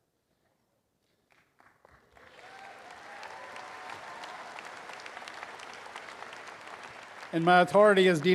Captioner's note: applause and cheering